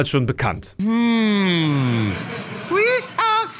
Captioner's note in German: Gelächter